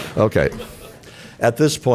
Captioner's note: laughter